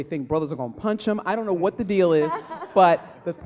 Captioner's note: laughing